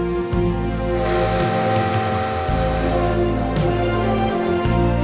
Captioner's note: train horn honks; enchanting music continues